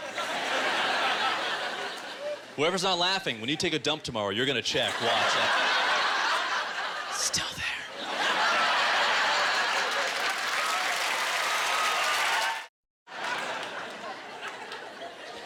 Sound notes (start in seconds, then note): 9.0 applause